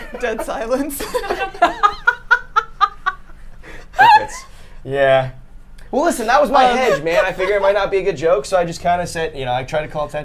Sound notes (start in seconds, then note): 0.0 laughs